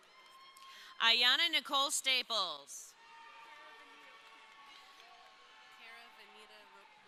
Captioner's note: crowd cheering